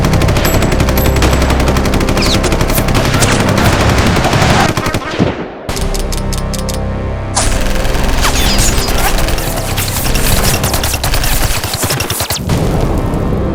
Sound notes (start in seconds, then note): 0.1 gunshots; 5.7 gun clicks; 7.3 gunshots; 8.2 bullets ricocheting; 12.7 dramatic music